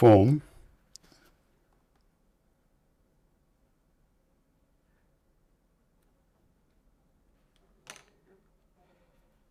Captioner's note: silence